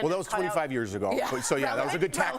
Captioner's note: laughter